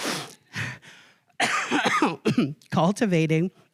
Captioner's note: coughing